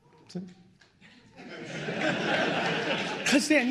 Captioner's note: laughter